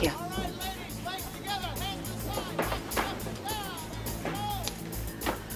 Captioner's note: exercise instructor yelling commands